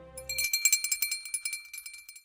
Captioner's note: bell ringing